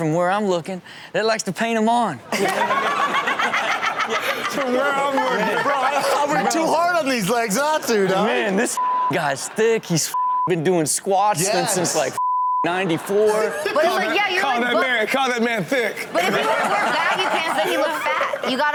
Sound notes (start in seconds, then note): 8.7 beep